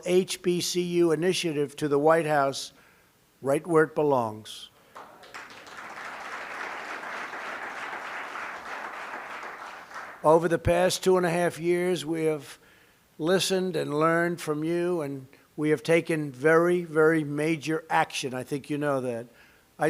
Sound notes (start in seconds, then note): 4.8 applause